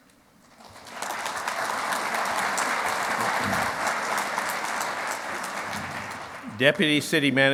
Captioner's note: clapping